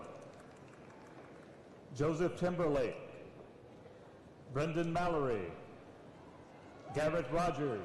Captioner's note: applause